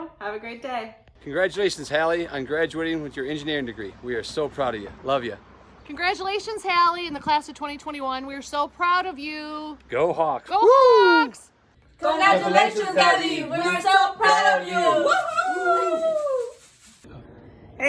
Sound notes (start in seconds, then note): 11.7 in Unison